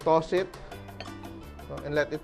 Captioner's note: clang